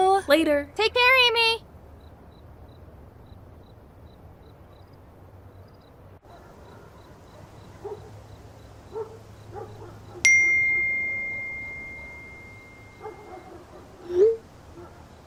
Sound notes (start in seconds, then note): 10.3 phone beeps